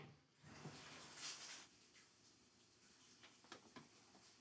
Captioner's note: shower door thuds; water splashing